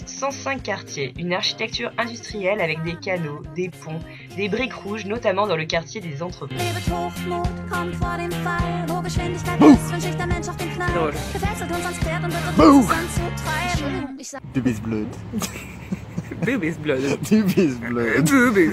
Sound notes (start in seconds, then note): 13.8 german